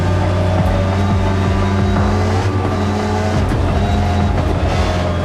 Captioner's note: car engine revving